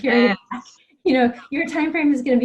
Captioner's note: laughing